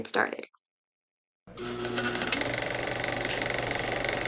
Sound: old-fashioned camcorder noise

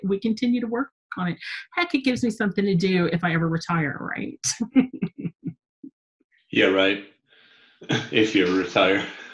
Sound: chuckling

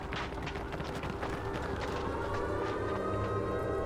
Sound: air raid sirens wail

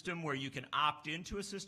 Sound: none

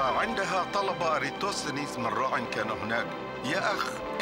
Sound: narrator speaking arabic

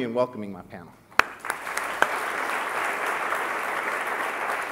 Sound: audience clapping

